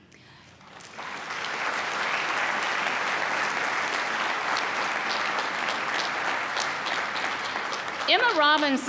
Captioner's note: applause